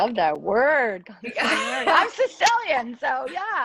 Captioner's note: laughs